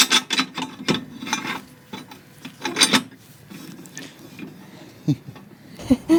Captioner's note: clinking